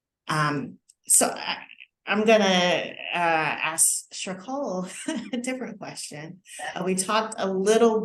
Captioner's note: laughter